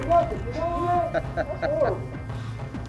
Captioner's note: laughter